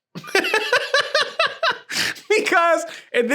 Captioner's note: laughs